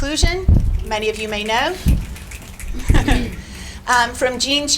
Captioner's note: audience snapping